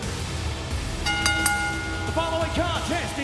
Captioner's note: dramatic music; bell dings